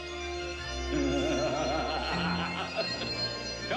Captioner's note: MAN LAUGHlNG